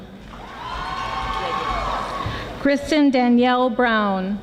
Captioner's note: audience applauding